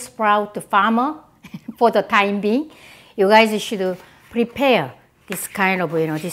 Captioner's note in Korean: 웃음